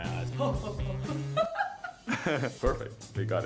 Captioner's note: laughter